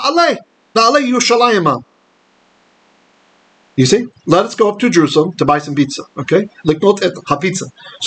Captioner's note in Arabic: بالعبرية; بالعبرية